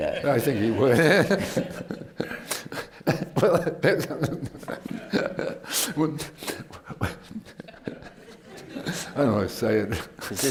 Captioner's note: laughter; laughs